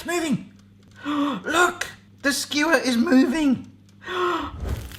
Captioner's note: gasping